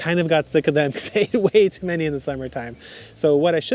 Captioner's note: laughing